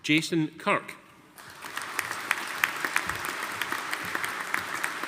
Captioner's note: audience applauding